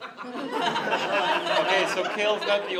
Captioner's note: attendees laugh